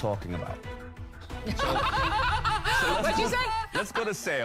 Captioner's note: all laughing